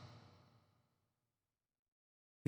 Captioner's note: silence